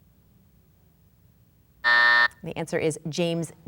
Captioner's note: buzzer sounds